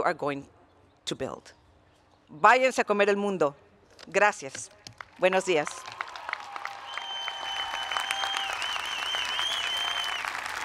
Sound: speaking Spanish

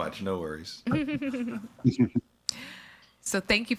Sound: chuckling

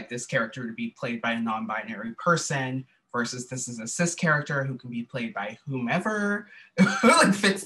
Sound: laughter

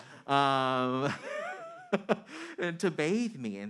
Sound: man laughing

